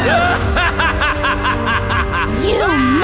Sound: evil laugh

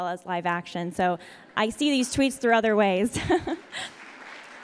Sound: audience applauds; laughs

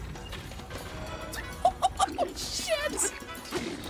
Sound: laughing

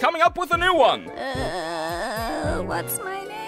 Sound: groans

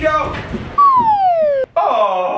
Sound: whistling

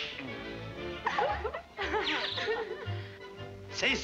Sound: girls giggling

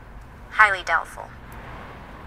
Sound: woman on phone

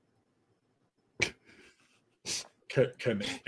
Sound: laughing

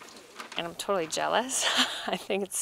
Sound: laughs

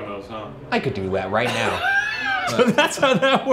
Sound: laughing

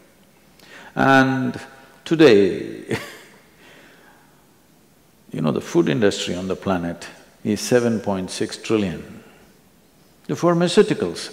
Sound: laughs

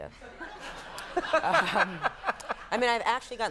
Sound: Conan and audience laughing

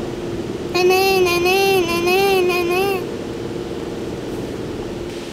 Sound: vocalizing

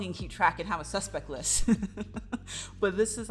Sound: laughs

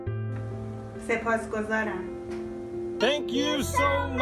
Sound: speaking Farsi

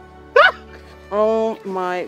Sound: screams

